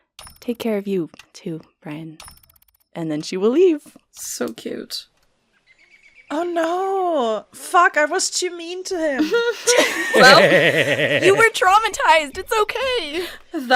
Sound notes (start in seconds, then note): 3.4 birdsong and outdoor morning ambience begins; 9.2 laughter